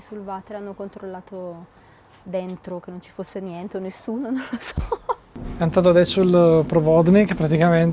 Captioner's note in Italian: risate